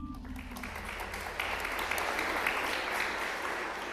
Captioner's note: applause